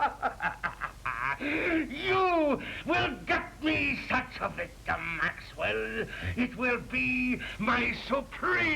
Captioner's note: maniacal laughter